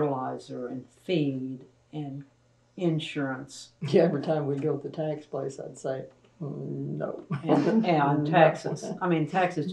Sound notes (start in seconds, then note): 7.0 laughs